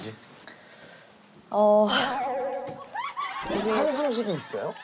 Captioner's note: long sigh